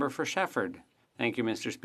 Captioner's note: speaking in French